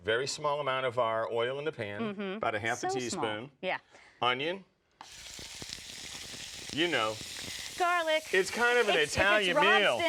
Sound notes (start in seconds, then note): 5.0 sizzles in pan